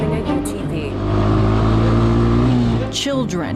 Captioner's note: engine rumbling